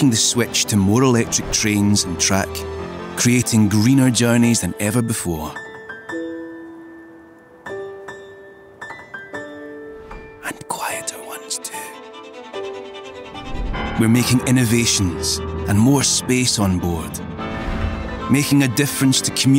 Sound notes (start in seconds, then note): 5.6 whispering: and quieter ones too